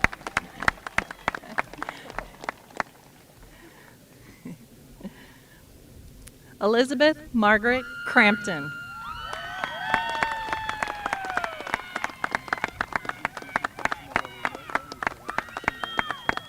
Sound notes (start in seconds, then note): 4.7 applause